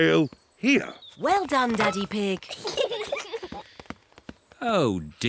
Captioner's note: peppa and george giggle